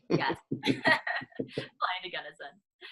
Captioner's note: laughing